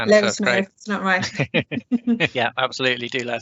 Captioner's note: laughter